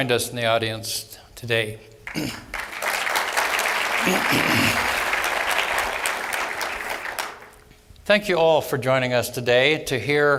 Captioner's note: applause